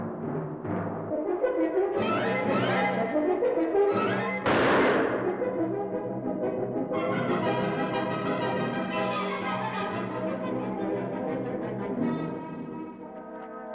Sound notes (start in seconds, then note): 4.4 rifle fires; 6.9 thrilling music